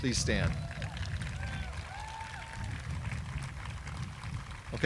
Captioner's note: audience applauding